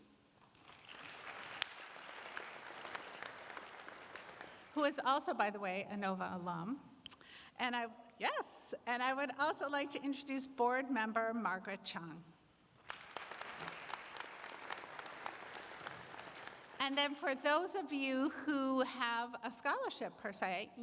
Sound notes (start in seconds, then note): 0.5 applause; 14.5 applause